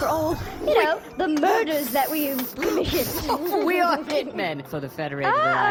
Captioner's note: giggles; wheezing, laughing